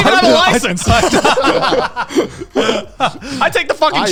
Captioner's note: all laughing